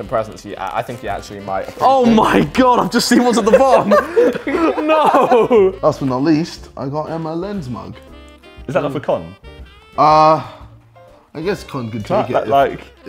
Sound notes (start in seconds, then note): 3.1 laughs